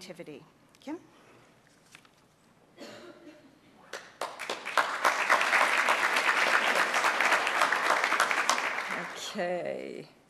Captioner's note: applause